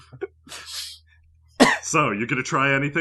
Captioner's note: laughter; Ashe coughs